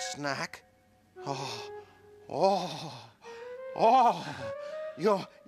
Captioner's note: exclaiming